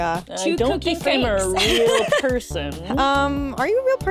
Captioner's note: chuckles